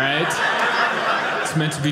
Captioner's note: audience laughing